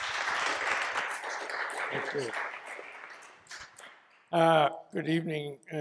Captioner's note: applause